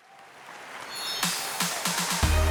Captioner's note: audience applauding; bright music